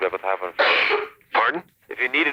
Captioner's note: coughs in background